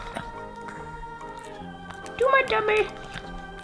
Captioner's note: Spudgy voice